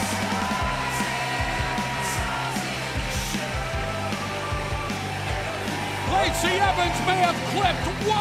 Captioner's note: cheers and applause